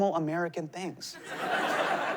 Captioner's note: laughter